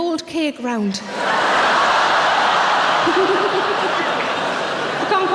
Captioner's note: audience laughing